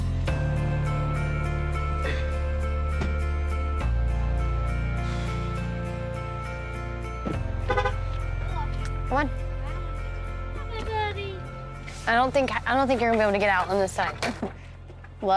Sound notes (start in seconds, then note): 0.2 soothing music; 7.6 car hooting